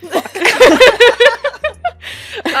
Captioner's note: laughter